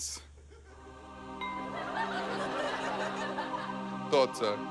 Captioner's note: ding!